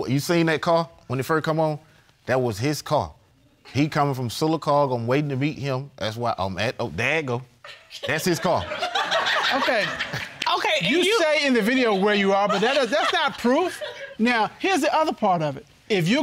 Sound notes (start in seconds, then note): 9.6 all laughing